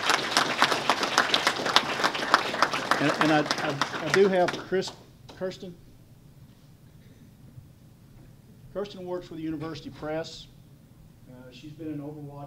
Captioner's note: applause